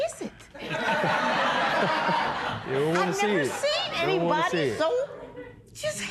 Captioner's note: laughter